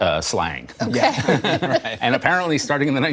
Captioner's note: laughter